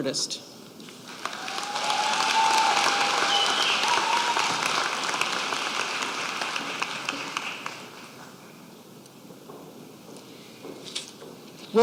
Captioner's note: applause